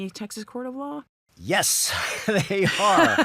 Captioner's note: chuckles; laughs